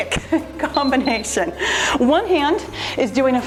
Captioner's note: timer beeps